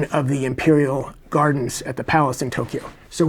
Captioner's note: none